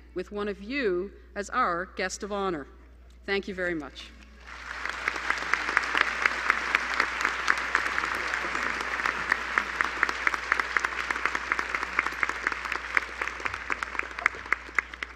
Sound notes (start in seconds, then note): 4.3 applause